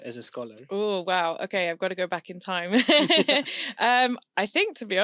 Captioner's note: laughs